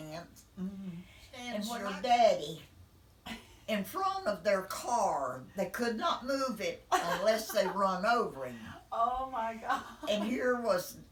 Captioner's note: laughing